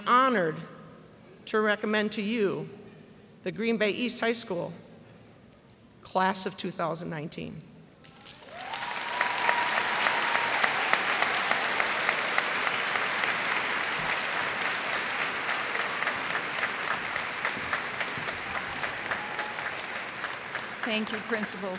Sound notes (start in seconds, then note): 8.0 applause